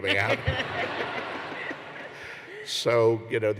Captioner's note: laughter